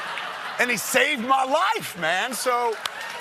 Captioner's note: cheers and applause